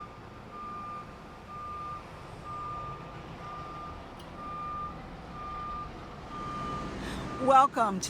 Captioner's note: beeping of a truck backing up